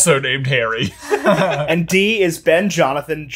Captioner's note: all laugh